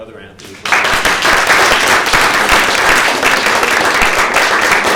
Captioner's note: applause